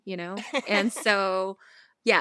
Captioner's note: laughter